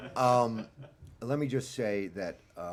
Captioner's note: laughter